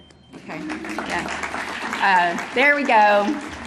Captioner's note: audience applauding